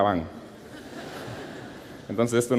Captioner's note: laughter